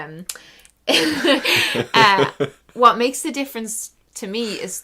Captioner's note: they laugh